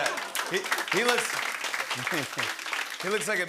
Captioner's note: applause